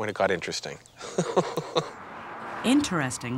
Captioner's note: chuckles